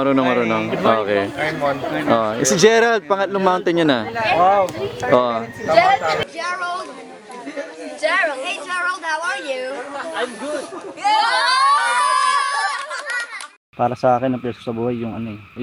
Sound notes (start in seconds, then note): 11.0 cheers